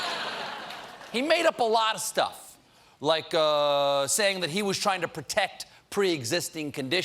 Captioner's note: laughter